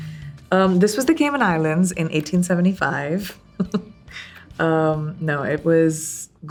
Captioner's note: laughs